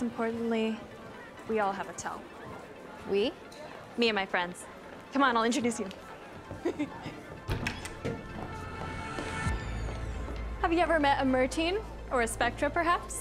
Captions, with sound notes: And most importantly, we all have a tell. -We? -Me and my friends. Come on. I'll introduce you. [giggles] Have you ever met a Mer-Teen or a Spectra, perhaps?